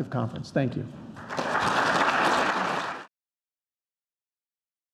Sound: applause

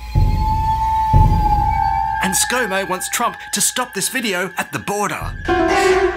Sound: eerie sound; dramatic music

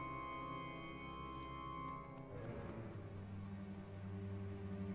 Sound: rustling

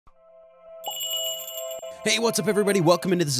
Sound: magical jingle

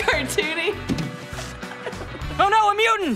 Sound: laughing

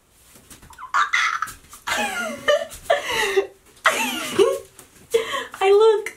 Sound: excited laughter

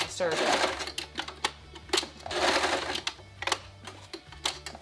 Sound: machine whirring

